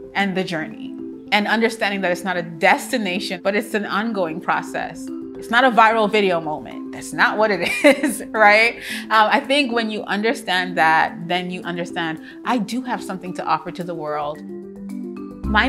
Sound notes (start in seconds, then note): 8.2 laughs softly; 14.5 soft inspirational music